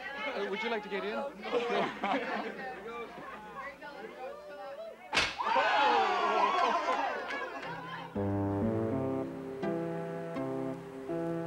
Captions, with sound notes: Hey, would you like to get in? (whip cracks) - Whoa! (playful music)